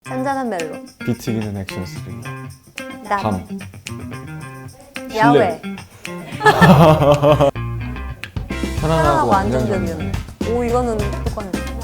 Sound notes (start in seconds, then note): 6.0 laughs